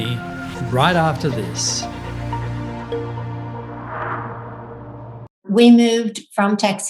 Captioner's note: upbeat music; air whooshing